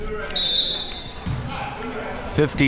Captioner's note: whistle blowing